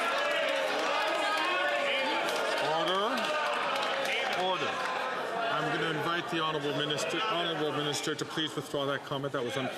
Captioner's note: some Applause